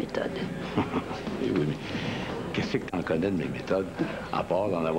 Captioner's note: Rire